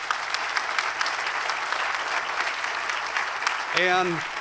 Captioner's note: applause